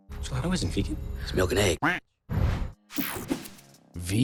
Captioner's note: quacks